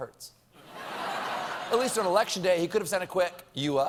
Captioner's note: laughter